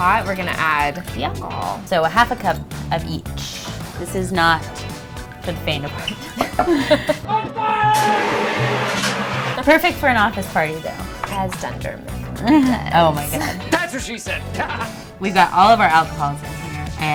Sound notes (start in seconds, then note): 7.9 fire extinguisher spraying